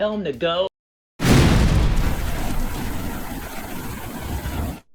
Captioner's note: explosion sound